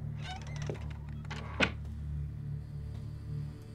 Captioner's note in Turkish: Kapı kapanma sesi